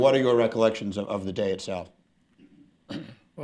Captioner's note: Tagliabue clears throat